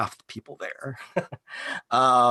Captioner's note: chuckles